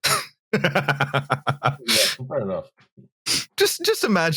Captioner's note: laughs